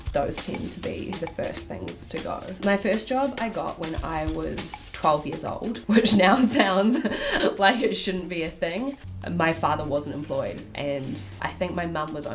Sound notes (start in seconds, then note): 5.8 laughing